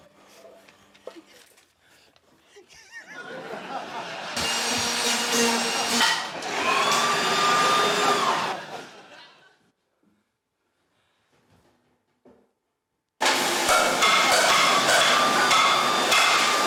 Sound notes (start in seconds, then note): 2.7 wheezes; 4.4 trimmer whirrs loudly; 6.6 power tools roar; 13.2 pots clang, power tools whirr loudly